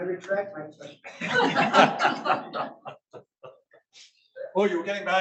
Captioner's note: audience laughs